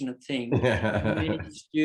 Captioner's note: laughs